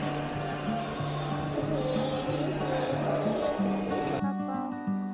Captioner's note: haha